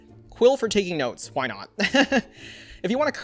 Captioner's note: laughs